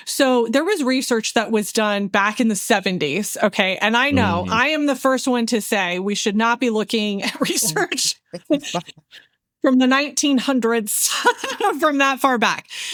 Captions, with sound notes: So there was research that was done back in the 70s. And I know, I am the first one to say I should not be looking at research (Laughing) from the 1900s from that far back.